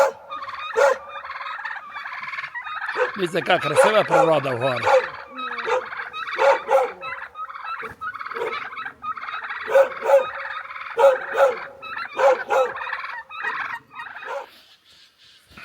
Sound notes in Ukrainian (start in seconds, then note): 11.7 сміх